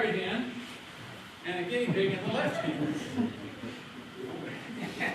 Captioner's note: laughter